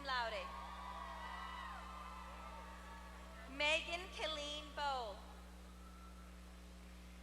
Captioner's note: applause